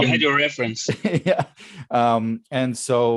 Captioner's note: laughs